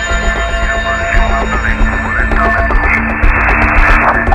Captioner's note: indistinct chatters